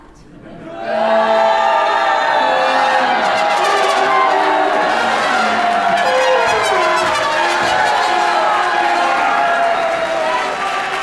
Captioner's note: booing and cacophonous noise from the Orchestra